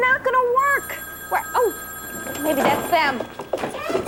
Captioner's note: telephone rings